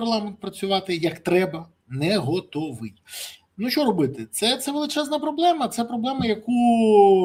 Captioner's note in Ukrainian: сопіння